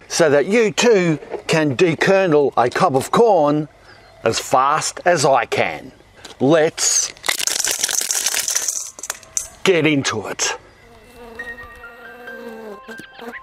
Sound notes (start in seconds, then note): 7.2 rapid tinkling; 11.3 piano music; 13.2 birds chirping